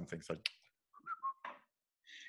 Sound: whistles

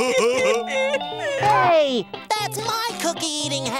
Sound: laughing

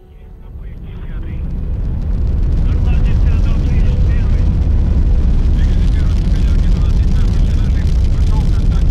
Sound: rocket launching

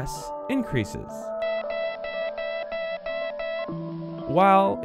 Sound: morse code beeping

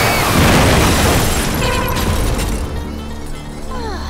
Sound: explosion

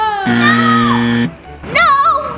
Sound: buzzer sounds

